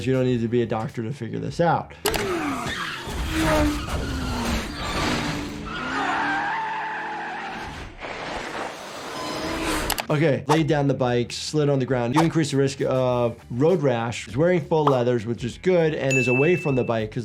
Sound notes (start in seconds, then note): 2.9 motorcycle whizzes; 6.0 tires screech